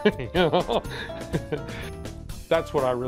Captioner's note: laughter